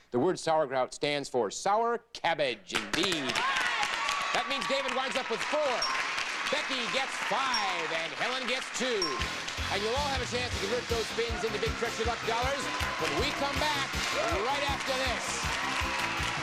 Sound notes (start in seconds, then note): 3.3 audience cheering; 7.9 audience applauding; 16.2 audience cheering